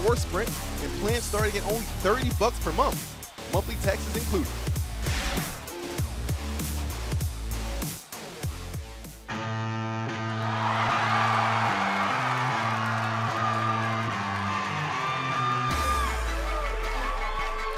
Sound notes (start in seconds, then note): 6.5 crowd cheering